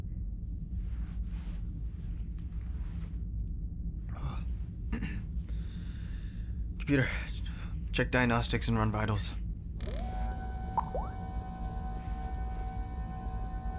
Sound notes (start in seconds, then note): 4.9 clears throat; 9.8 computer whirs and beeps